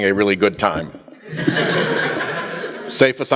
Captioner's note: laughter